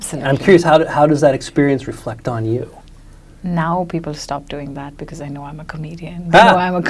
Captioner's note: laughs